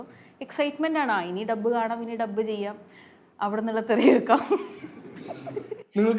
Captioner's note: laughs